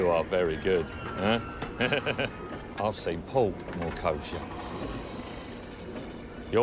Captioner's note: laughs